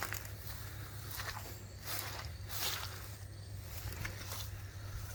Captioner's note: footsteps sloshing